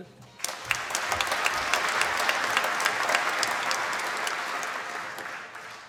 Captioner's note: applause